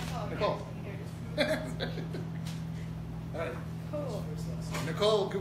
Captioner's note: laughter